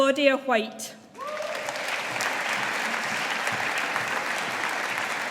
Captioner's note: audience applauding